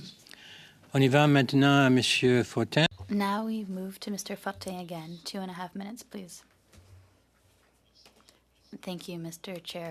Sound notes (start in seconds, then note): 5.2 speaking French